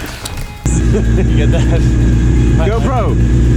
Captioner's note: laughing